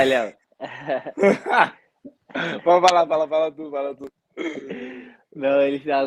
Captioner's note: laughs; laughs